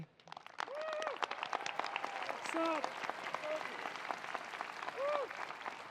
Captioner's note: attendees applauding; attendees cheering